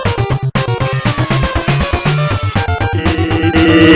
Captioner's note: in pain